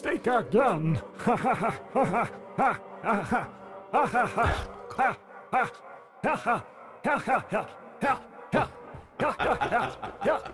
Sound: laughs in an alien way

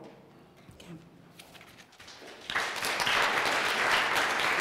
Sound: applause

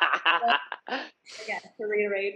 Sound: laughing

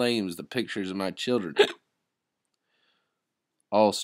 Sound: hiccup

